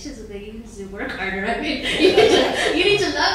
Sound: laughing

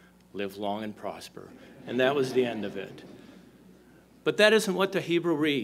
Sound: laughter

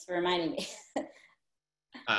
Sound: laughs

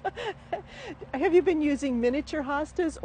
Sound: laughter

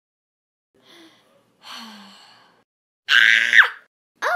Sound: breathes in deeply

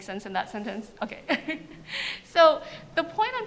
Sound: laughs

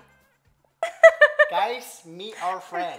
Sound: laughs

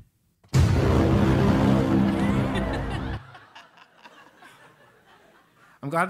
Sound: laugh

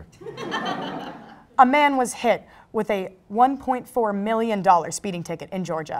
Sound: crowd Laugh

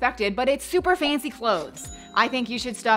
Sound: cash register dings

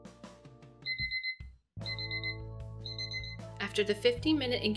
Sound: alarm rings

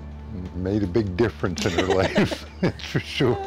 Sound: laughs

